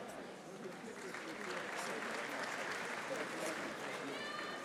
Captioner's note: audience applauding